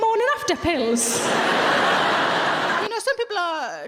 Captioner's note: audience laughing